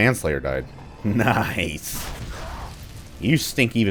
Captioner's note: chuckles